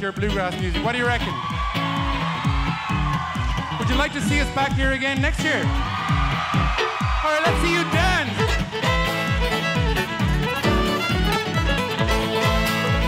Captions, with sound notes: with your bluegrass music, what do you reckon? (audience cheering) Would you like to see us back here next year? (audience cheering) Alright, let's see you dance. (upbeat folk music)